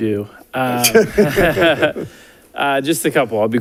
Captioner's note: audience laughing